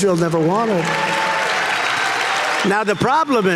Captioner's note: audience cheering